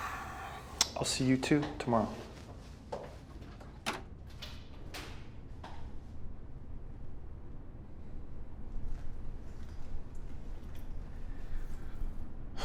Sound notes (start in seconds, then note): 0.0 sighs; 3.9 door clicks